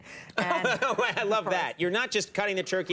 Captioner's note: laughs